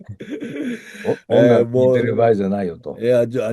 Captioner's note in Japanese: 笑い